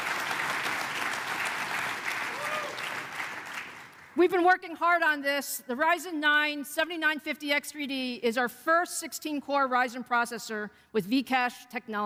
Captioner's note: applause